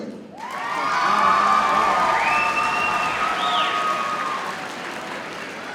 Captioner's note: audience cheers and applauds